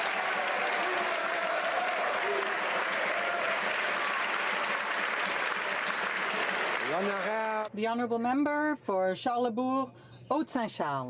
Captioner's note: some Applause